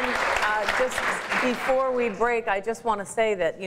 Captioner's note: applause